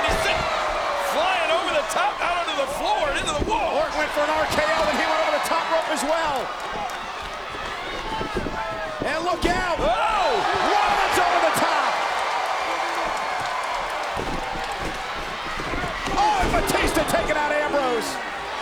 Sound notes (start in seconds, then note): 12.9 audience cheers